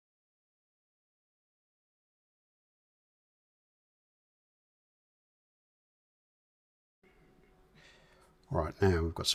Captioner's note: silence